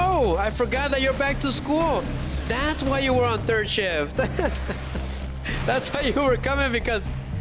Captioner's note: laughter